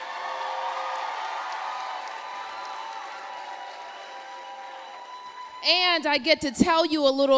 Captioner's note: applause